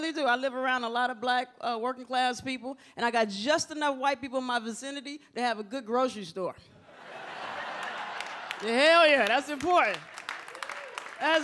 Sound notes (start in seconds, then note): 6.9 audience laughs